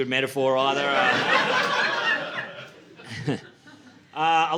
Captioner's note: laughter